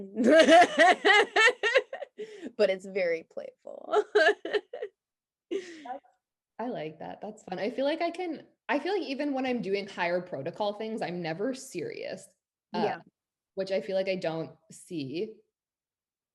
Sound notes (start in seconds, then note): 0.1 both laughing; 4.9 laughs